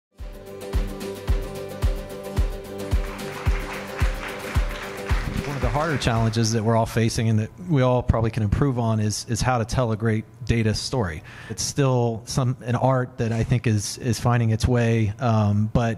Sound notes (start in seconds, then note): 0.4 light guitar music; 2.8 audience applause